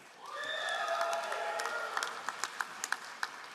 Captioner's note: all applauding